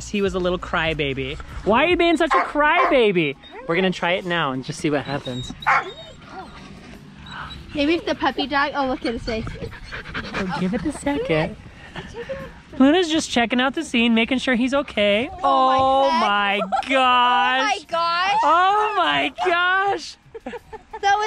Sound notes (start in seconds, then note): 7.2 gasps